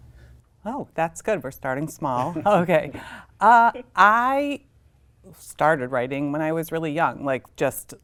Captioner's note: laughs